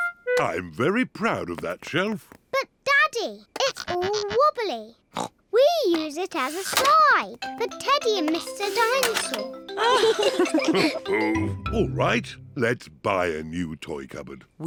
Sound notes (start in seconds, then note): 4.9 snorts; 9.7 both laugh